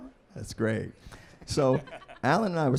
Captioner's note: laughing